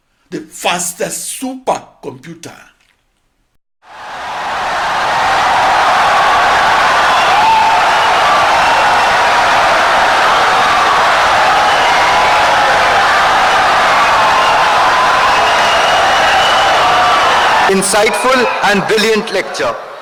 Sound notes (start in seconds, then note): 3.3 wild applause and cheering for 17 seconds